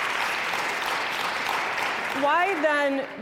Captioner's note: cheers and applause